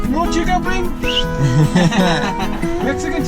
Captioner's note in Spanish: Risas